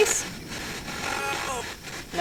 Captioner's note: spirit box voice